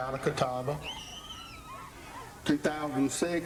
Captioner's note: kids screaming